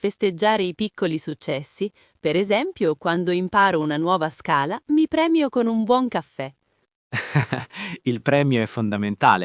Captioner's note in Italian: risate